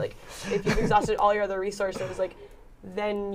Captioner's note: laughter